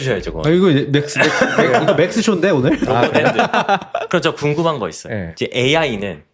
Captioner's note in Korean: 웃음